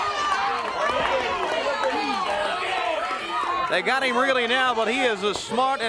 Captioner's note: crowd cheering